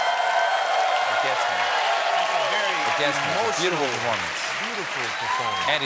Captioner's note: cheers and applause